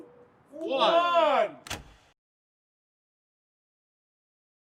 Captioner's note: thump